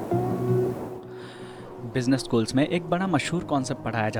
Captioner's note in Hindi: अचानक ज़ोर से सांस लेने की आवाज़